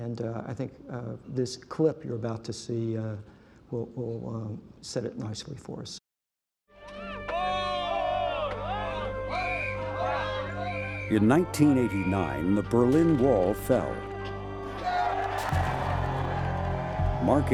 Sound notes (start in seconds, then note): 7.1 crowd chanting; 14.1 crowd cheers